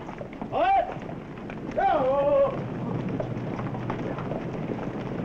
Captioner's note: calling commands